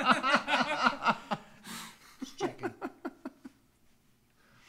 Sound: laughs

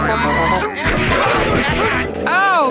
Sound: grunting

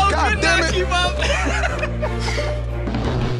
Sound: laughs

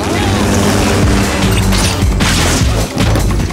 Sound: helicopter whirring

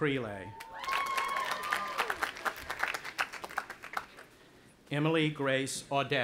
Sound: audience applauding and cheering

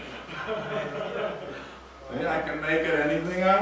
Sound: student laughs

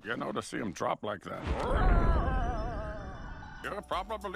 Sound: exclaims

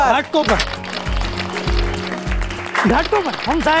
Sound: clapping

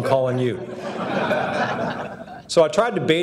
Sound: audience laughing

